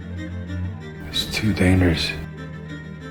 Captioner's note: voiceover